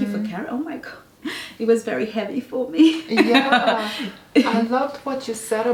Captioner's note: laughs